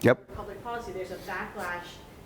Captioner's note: voiceover